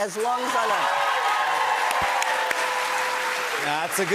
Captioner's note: cheers and applause